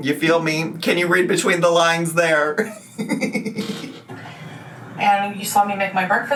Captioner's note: laughs